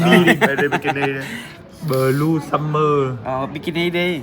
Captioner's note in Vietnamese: tiếng cười